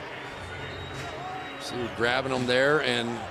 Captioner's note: pa announcement